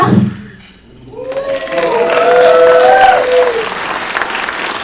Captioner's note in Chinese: 掌声